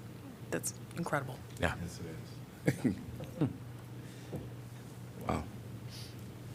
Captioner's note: laughter